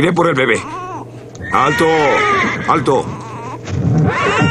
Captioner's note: neighing; baby crying